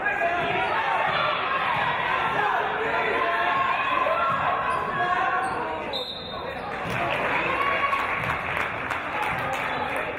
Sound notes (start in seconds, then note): 5.8 referee's whistle